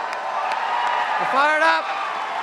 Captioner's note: cheers and applause